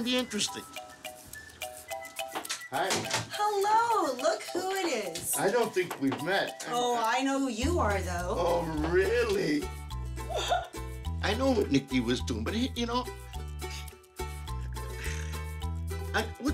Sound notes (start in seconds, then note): 10.3 giggling